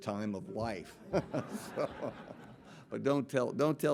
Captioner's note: audience laughing